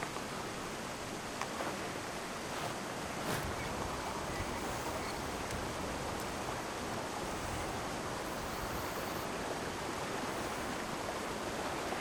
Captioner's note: water splashing; wind blowing; water splashing